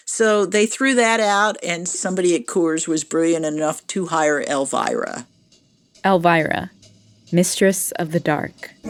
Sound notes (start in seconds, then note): 5.3 soundbite of archived recording